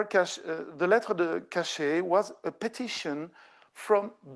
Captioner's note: speaking French